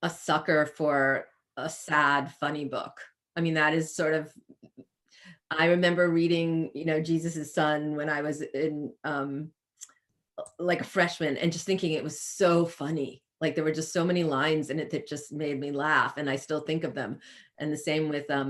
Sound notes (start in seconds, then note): none